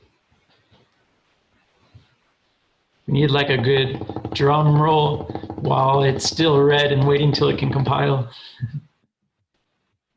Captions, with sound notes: We need a good (tapping desk) drum roll while it's still red and waiting and waiting until it can compile. (laughs)